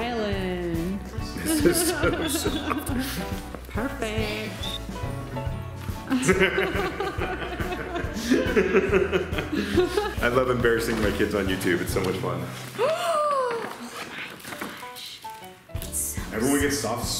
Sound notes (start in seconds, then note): 1.4 laughing; 6.1 laughing; 13.3 gasp